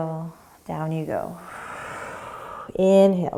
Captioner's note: exhaling